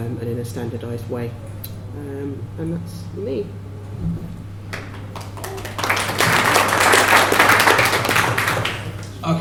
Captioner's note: applause